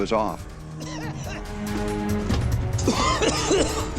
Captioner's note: coughing